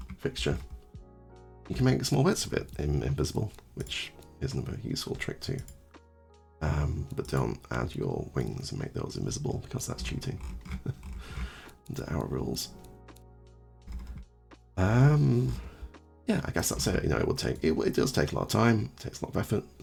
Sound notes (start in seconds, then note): 10.6 heh